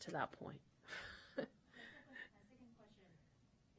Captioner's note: laughter